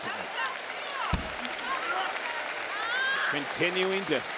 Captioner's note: audience applauds